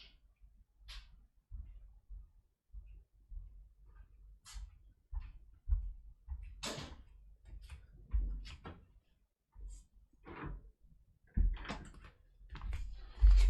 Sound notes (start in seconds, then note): 6.6 door closing